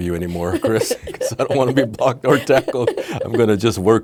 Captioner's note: laughing